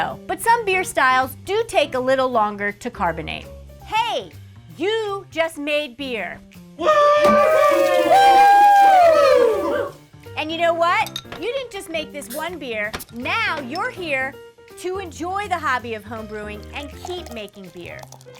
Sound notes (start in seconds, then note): 6.8 whooping sound